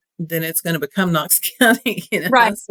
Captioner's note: laugh